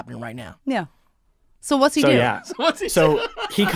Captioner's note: Dante laughing